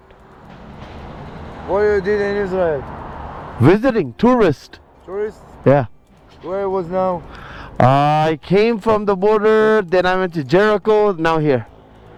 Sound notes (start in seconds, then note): 6.8 broken english